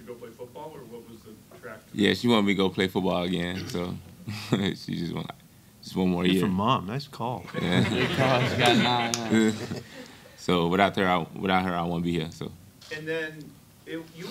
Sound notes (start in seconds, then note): 4.3 chuckles; 7.5 laughing